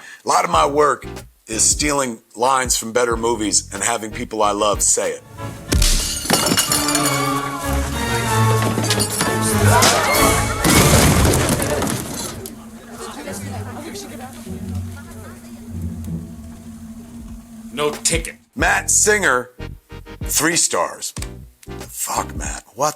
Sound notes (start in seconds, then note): 5.6 impact thuds; 5.7 glass clatters; 6.6 intense music begins; 9.7 luggage thuds